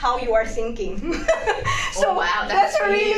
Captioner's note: laugh